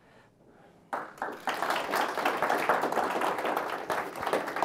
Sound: audience clapping

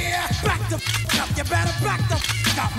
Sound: gun clicks

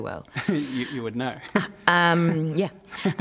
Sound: laughs

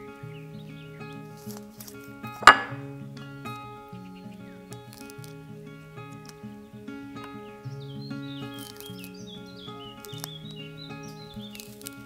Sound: peeling

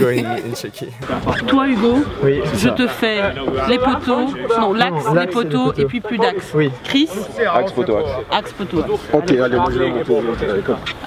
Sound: French

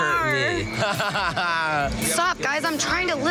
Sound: laughs

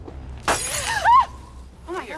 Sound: glass shattering; women yelling

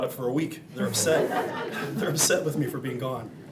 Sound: audience laughing

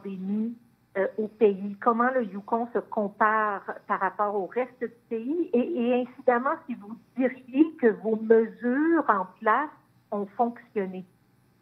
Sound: speaking in French

